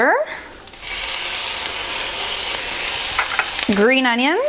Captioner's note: sizzling